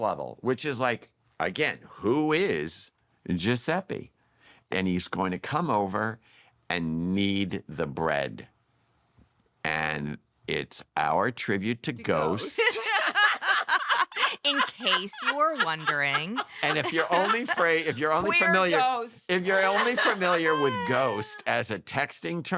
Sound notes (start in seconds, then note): 12.3 laughter